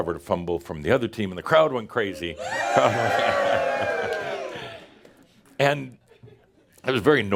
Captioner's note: audience cheers again